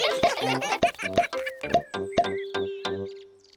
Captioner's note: all giggling